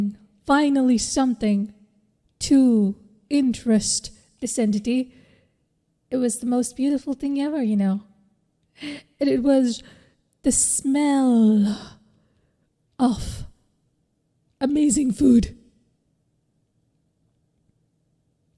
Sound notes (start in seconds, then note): 11.8 gasm sound